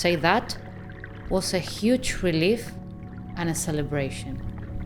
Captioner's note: water gently swooshing